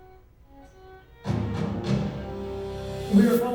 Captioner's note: newscast plays from cellphone